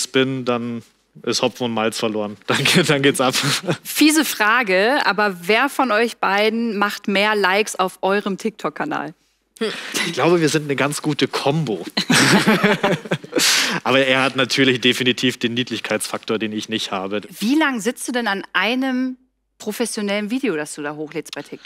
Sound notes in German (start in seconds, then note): 11.9 Er lacht